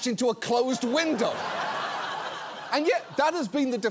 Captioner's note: audience laughs